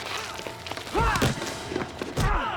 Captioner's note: ice clatters; fighters shout and grunt; Nick grunts; tense music